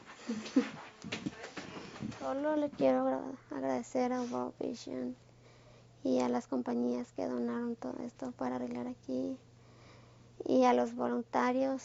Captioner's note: in Spanish